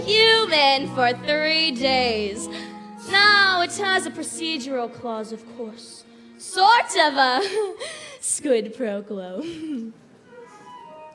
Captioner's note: laughter